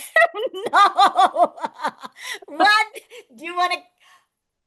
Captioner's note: laughs